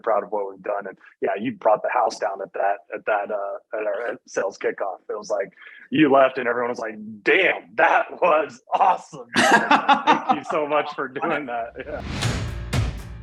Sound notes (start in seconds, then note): 9.2 both laughing; 13.0 upbeat music